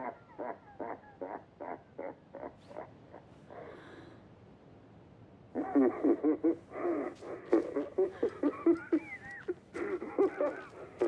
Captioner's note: laughing